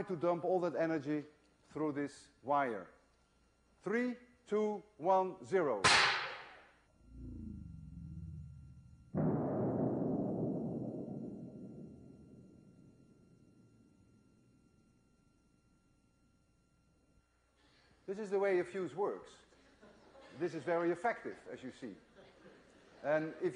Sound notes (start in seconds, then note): 3.3 loud bang; 3.3 low rumbling sound due to slowmotion